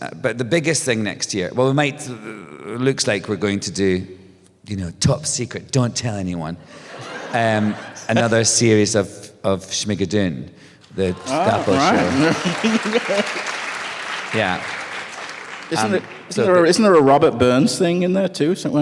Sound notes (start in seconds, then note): 6.7 laughter; 11.3 applause